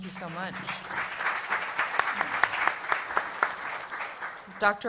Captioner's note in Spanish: Aplausos